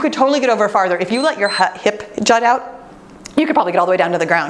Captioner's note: timer beeps